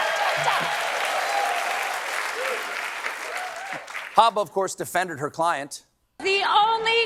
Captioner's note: cheering